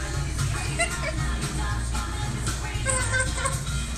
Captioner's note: woman laughs